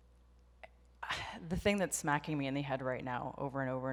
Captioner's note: sighs